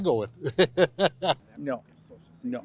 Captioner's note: laughs